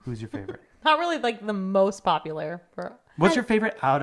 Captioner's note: laughs